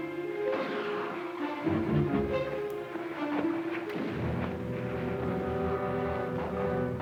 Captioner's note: suspenseful music; distant guns fire